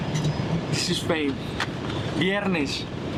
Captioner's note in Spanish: en inglés